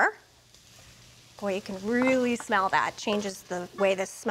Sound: pan sizzling

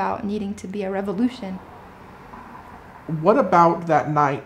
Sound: traffic sounds

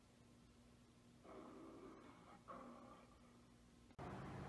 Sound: Leo the Lion roaring, as filmed on camera

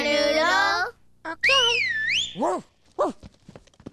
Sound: whistle

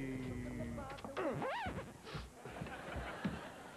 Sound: record scratches

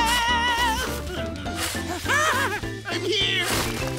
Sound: laughing

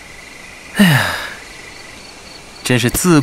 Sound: sigh

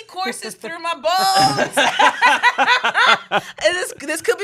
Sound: everyone laughs

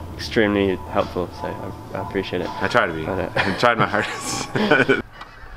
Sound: laughs

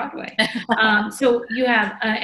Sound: laughs

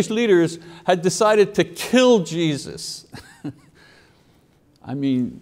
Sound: chuckles

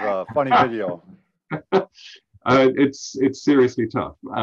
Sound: laughs

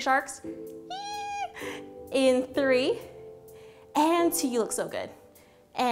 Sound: squeals

